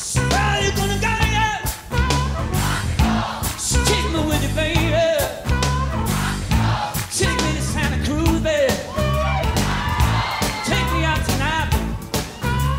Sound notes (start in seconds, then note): 0.0 crowd; 1.6 crowd; 6.0 crowd; 9.4 crowd